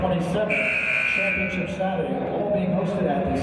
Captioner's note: buzzer